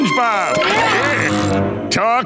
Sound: grunting

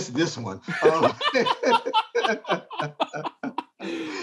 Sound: men laughing

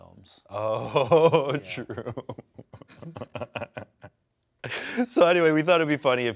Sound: laughs

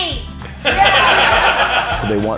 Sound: laughter

